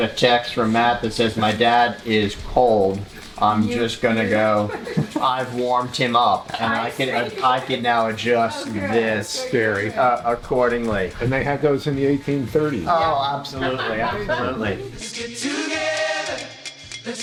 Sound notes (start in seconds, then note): 13.5 laughter